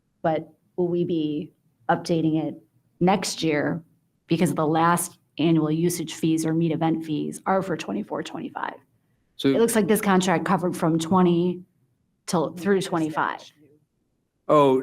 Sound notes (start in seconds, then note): none